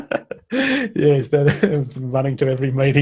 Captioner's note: chuckles